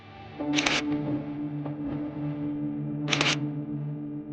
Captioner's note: camera clicking